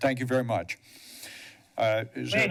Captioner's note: inhales